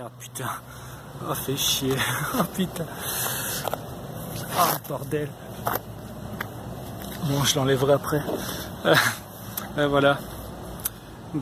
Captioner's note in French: rire